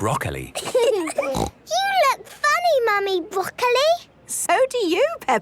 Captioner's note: laughing, snort